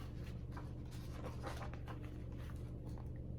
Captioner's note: page turns